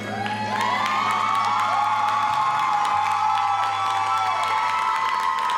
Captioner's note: audience cheers and applauds